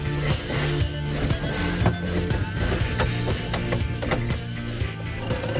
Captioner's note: winch pulley block rattling